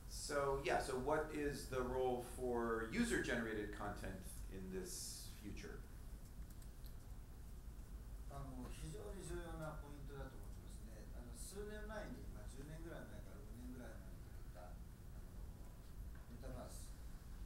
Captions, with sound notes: So, what is the role for user generated content in this future? (speaking in foreign language)